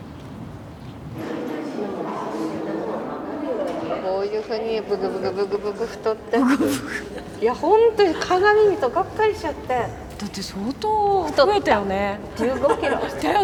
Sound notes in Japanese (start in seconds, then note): 4.0 日本語音声